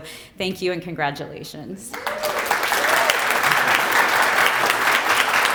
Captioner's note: applause